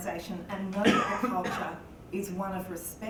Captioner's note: cough